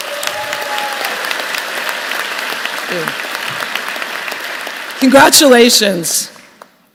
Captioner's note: applause